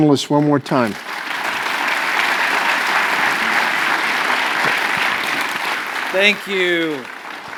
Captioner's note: applause